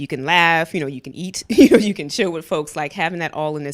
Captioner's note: laughs